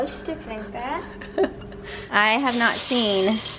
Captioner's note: giggles